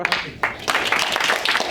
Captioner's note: applause